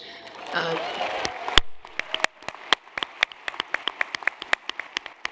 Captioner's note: cheering